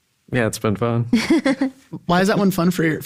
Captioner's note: laughs